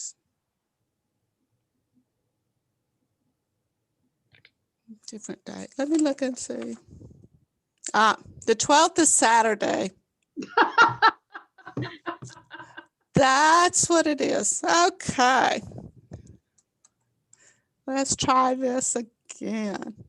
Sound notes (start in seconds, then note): 10.4 group laughter